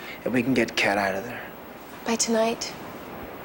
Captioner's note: none